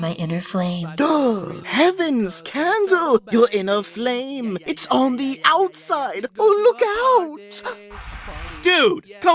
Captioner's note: gasp